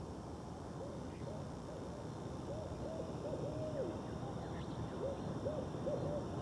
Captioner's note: owl hoots